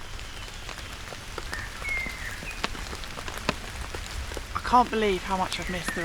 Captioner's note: rain & birdsong